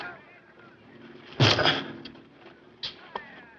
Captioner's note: grunts